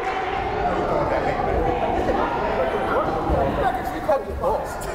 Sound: crowd chattering

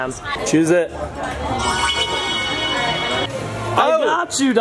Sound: phone jingles

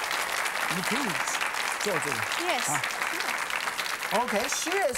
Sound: audience applause; speaking in foreign language

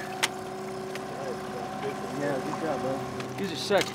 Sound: trolling motor humming

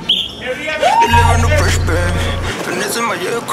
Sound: playful yelling; rap music

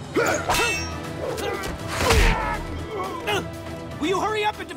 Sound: grunting

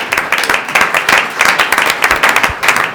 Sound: applause

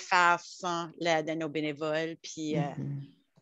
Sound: French

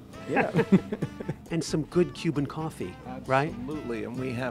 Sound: laughing

